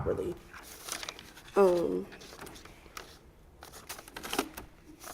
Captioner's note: papers rustling